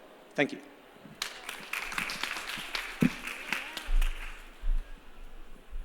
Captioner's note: applause